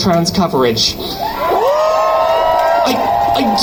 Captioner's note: crowd cheers